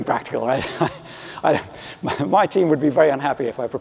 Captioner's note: laughs